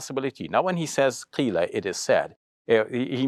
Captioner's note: foreign language